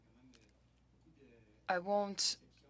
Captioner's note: speaking french